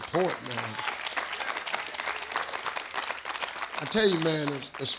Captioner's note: audience claps